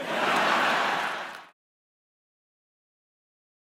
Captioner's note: laughter